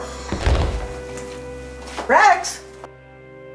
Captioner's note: heavy thudding; dramatic music